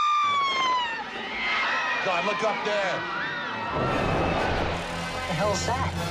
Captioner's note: screaming